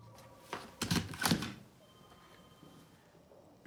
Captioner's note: klong